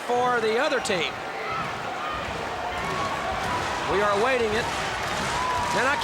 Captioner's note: applause